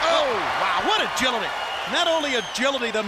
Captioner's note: crowd cheering